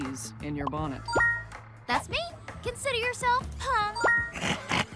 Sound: chiming; Devil Dinosaur chuckles

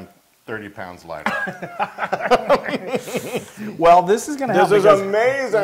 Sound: laugh

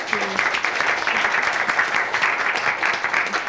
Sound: applause

